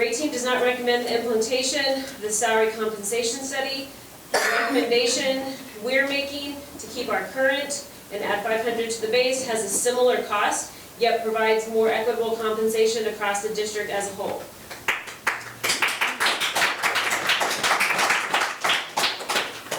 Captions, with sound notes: RayTEAM does not recommend the implementation of the salary compensation study, the recommendation we are making to keep our current and add 500 to the base has a similar cost yet provides more equitable compensation across the district as a whole. (members applauding)